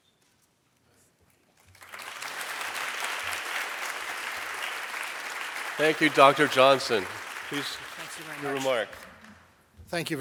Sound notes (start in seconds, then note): 1.7 audience applauding